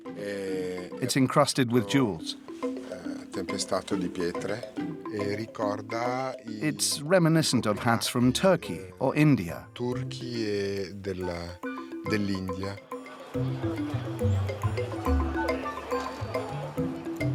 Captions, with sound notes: It's encrusted with jewels. [Italian spoken audio] It's reminiscent of hats from Turkey or India. [Italian spoken audio]